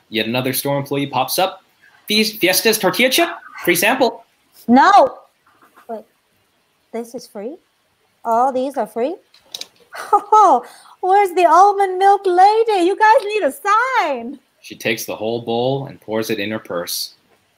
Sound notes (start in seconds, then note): 9.9 chuckling